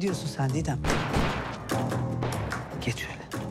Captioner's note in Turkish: Silah sesleri